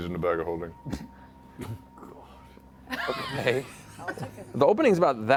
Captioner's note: laughter